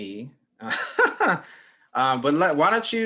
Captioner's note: laughs